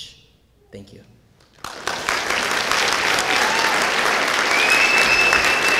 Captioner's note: sound of applause and cheering from the audience